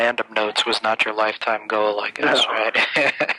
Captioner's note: laughs